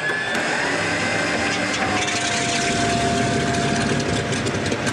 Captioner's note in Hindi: इंजन शुरू हो रहा है